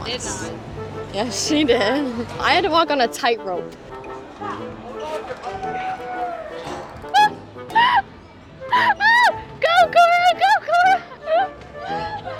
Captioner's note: screaming